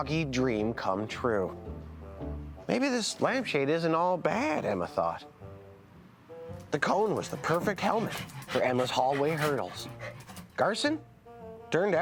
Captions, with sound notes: It's time to test your mighty minds with some library trivia! [gasping] Now let's see. I need, um-I need two teams.